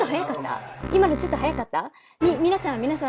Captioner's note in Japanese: 効果音